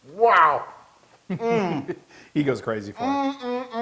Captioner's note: laugh